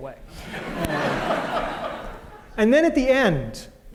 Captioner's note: laughter